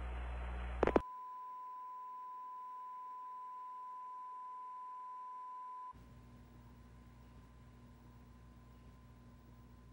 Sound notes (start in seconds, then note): 0.6 test tone